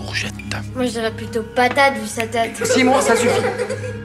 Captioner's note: laughs